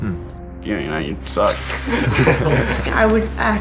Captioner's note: laughter